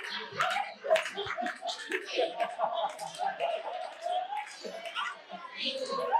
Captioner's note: audience laughing and clapping